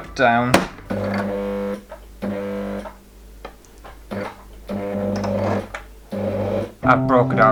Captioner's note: sewing Machine Motor